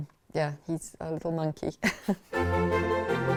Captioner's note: laughs; upbeat music